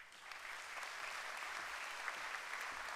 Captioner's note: applause